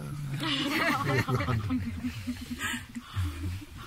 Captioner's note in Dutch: gelach